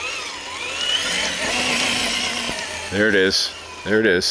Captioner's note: engine roaring